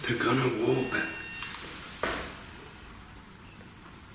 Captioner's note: beeping